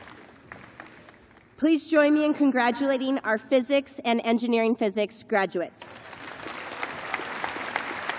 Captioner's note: applause